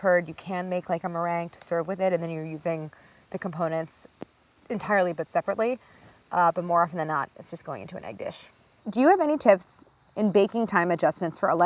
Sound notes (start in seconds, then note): none